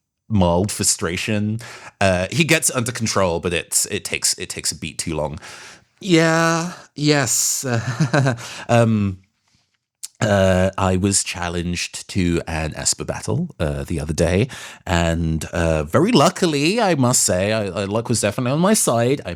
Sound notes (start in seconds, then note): 7.2 awkward Laughs